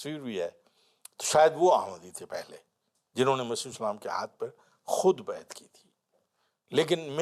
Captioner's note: Turkish